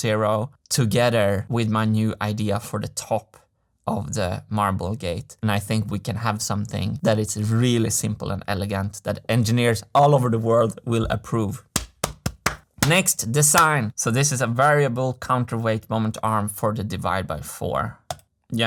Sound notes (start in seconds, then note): 11.7 claps